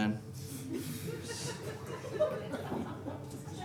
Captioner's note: audience laughing